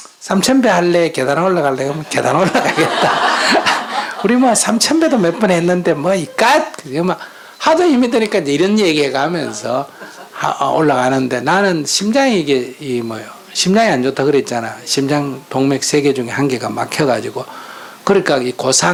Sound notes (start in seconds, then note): 4.5 /Audience Laughter